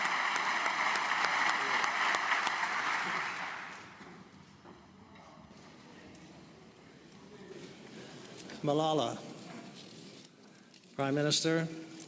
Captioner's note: applause